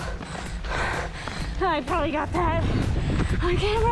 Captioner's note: pants